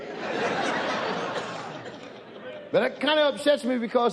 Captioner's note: audience laughs